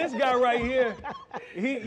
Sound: laughing

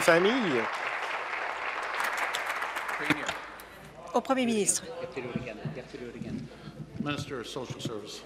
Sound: applause

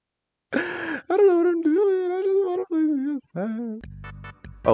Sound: slurred

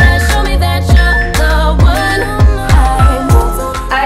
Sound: timer beeping

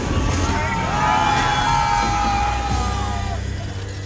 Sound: screaming

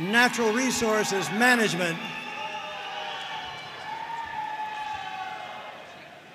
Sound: audience cheering and applauding

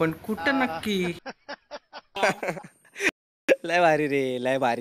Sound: laughing

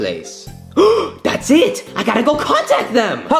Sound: gasps

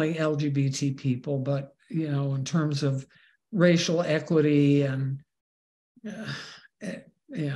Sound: sigh

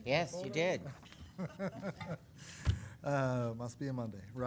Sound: laughing

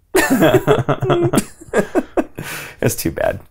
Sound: laughter

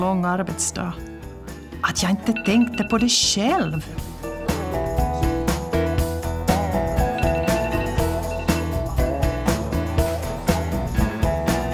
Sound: alarm rings for switching tables

